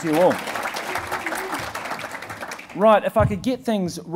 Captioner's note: applauding